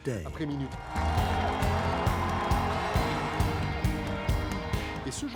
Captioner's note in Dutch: publiek juicht